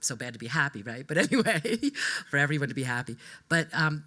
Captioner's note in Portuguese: laughs